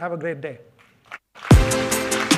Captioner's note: applause